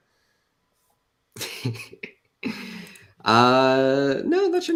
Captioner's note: laughs